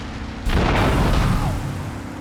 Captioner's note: gun firing